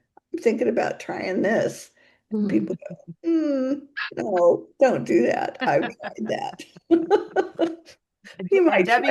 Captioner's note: both laugh